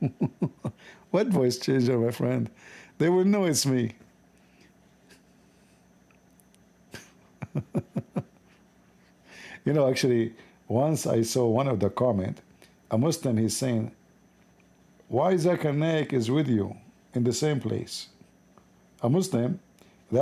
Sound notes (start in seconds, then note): 6.9 Ketawa